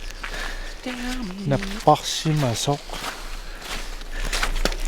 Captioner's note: Sarcasme